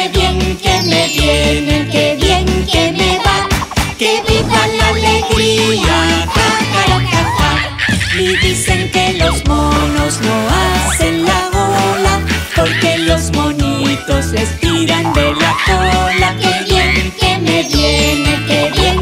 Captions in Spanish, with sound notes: Que bien que me viene que bien que me va (Sonido de palmas) ¡Que viva la alegria! Ja jara ja ja (Sonido de mono) Y dicen que los monos no hacen la ola porque los monitos les tiran de la cola Que bien que me viene,que bien que me va